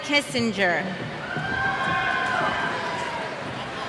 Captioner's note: cheers